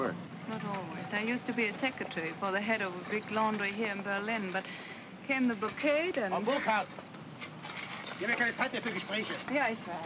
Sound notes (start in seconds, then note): 7.3 foreman speaks in German